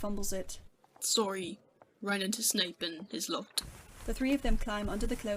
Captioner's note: muffled cloak noises